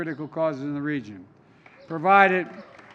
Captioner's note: applause